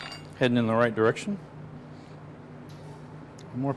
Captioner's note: none